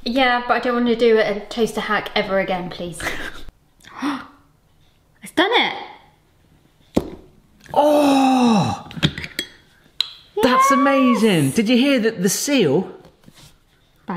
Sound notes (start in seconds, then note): 3.3 laughs; 4.2 gasps